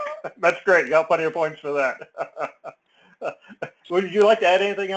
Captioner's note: laugh